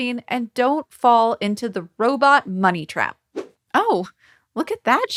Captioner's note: logo whooshing